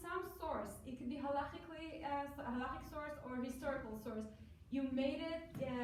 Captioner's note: foreign language